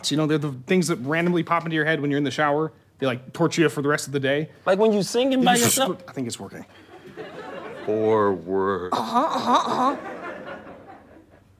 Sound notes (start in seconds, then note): 5.5 shushing